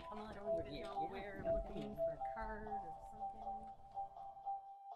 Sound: dialogue fades

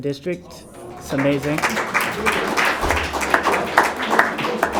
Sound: applause

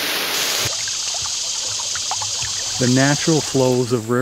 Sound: water flowing

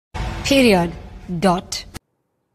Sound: dramatic bang

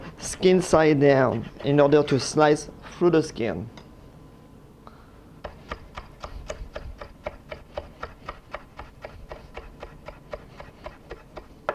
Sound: slicing sounds

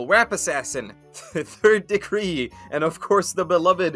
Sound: chuckling

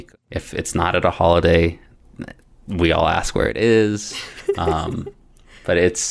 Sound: laughter

